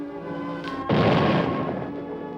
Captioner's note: explosion